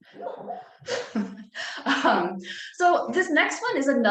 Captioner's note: laughs